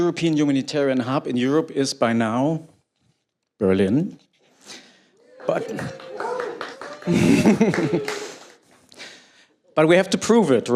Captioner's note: applause